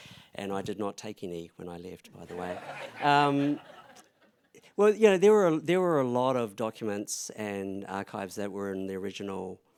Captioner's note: laugther